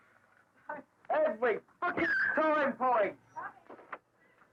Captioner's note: dog whining